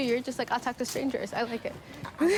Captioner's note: laughs